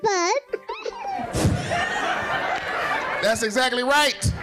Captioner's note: laughing